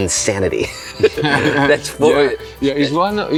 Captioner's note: chuckles